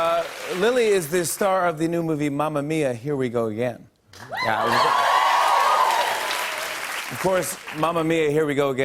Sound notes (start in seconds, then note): 0.0 cheers and applause; 4.3 cheers and applause